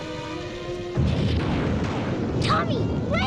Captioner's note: lightning crashes